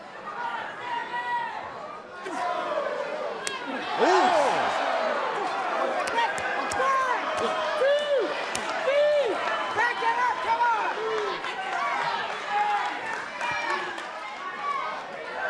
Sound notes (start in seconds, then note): 6.4 cheers & applause